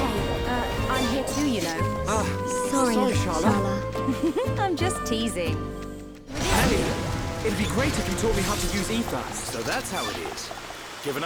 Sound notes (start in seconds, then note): 3.9 giggle